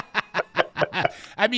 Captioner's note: laughing